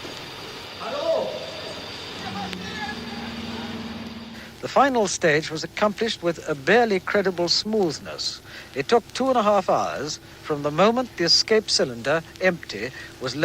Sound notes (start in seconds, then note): 2.8 men shouting in background